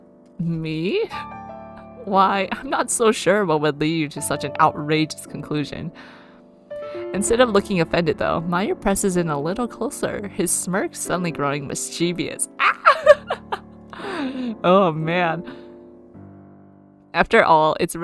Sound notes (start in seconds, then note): 12.6 laughs